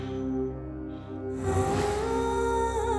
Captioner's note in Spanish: Sollozos